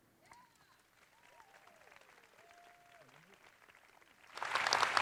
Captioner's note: audience applauds